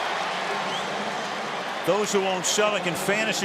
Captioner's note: pa announcement